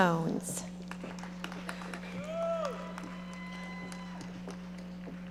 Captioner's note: audience applauding